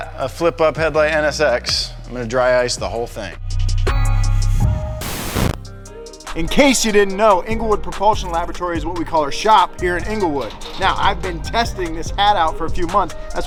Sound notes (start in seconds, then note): 4.9 static hissing